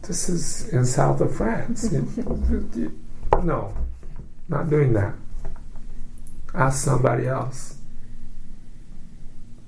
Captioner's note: laughs